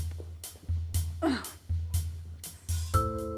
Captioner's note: Joan sighing